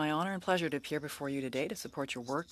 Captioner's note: speaking French